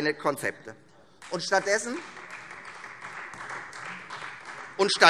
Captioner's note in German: Beifall Freie Demokraten